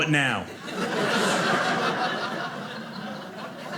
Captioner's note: audience laughing